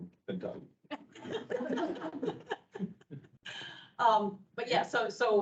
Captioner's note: people laughing